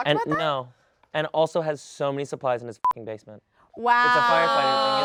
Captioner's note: beeps